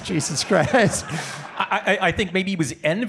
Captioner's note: audience laughing